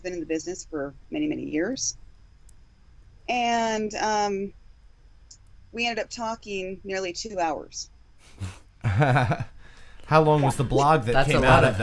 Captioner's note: haha